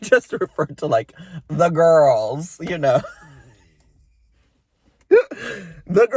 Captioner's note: laughs